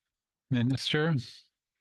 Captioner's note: speaking French